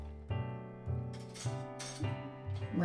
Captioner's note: metallic clatter of a cutlery drawer